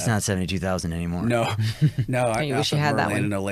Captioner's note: chuckles